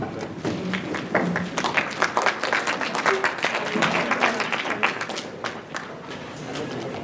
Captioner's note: applause